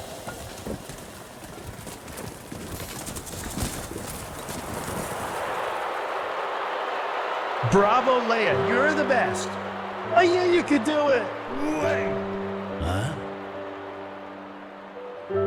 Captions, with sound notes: (Sounds of stones) (Restless crowd) Bravo. Leah. You're the best. I knew you could do it. Huh?